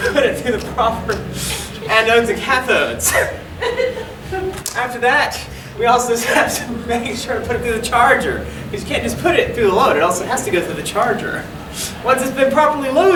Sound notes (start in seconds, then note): 0.1 laughing